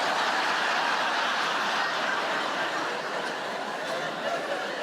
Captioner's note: audience laughs